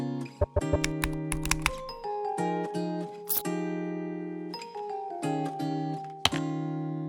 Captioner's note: graphics clacking; mellow music continues